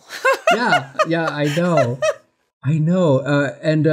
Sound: laughs

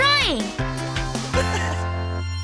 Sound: chuckles

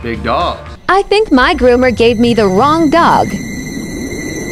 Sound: robotic Voice

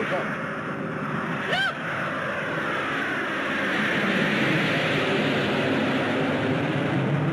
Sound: planes roaring

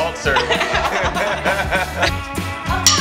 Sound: laughter

